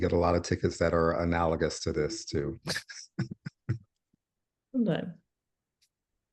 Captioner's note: laughs